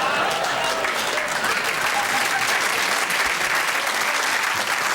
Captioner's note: applause